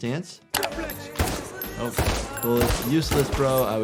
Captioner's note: gun firing